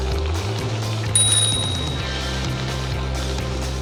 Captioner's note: bicycle bell dings